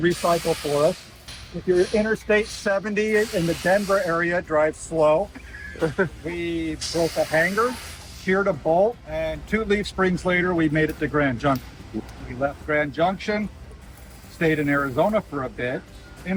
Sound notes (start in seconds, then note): 0.0 water spraying; 3.0 water spraying; 5.3 laughs